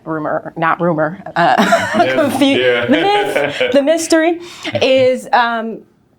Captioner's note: laughing